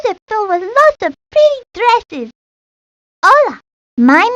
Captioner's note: in Spanish